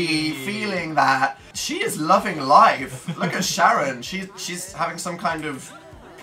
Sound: laughs

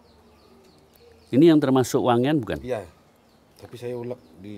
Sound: Speaking in Balinese

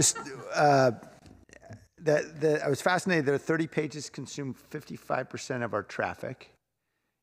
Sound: laughter

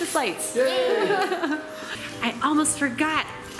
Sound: laughter

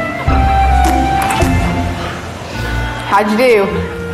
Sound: laughing

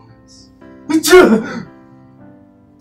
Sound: sneeze

